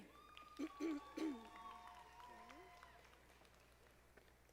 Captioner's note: audience applauding